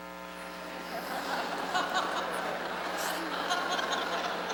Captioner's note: laughter